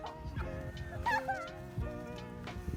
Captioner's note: laughs